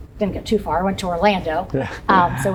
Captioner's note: chuckles